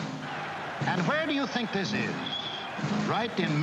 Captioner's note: radio Announcer